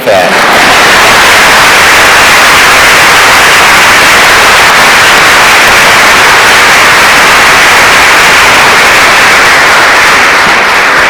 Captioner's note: applause